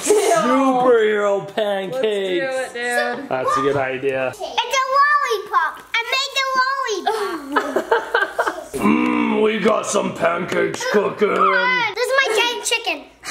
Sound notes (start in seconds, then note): 0.1 laughs; 7.1 laugh